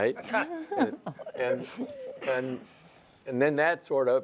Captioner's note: laughs